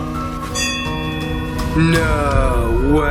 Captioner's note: bell rings